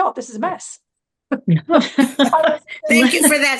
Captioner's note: laughter